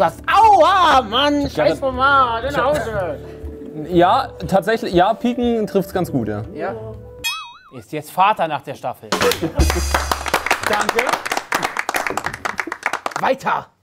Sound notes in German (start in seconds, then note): 9.3 Applaus